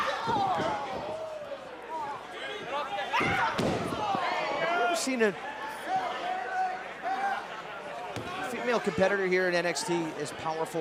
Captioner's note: crowd chatter